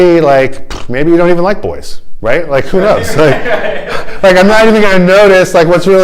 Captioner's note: laughter